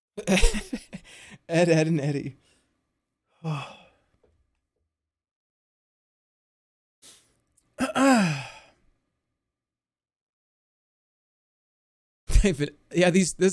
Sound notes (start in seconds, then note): 0.2 laughing; 3.4 sighs; 7.8 clears throat